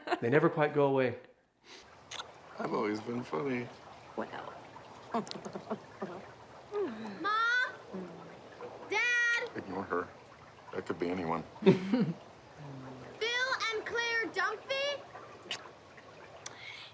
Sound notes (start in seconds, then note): 5.1 laughs; 11.6 both chuckle